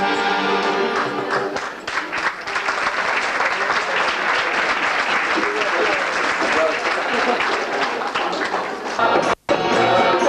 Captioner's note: applause